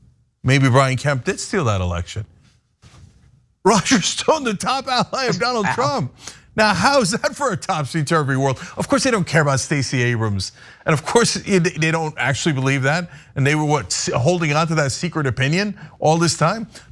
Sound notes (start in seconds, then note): 4.8 laugh